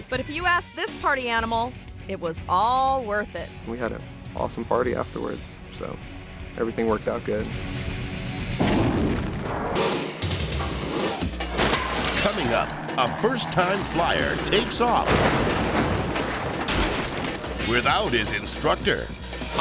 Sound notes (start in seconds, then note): 8.6 explosion booms; 9.7 logo whooshing; 9.7 upbeat music; 14.9 helicopter crashes